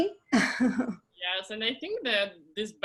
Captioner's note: laughs